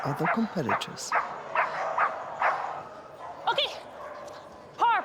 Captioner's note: Posh continues barking